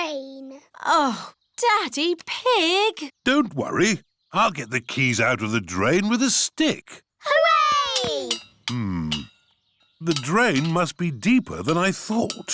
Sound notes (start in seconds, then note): none